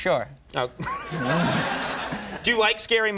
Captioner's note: audience laughing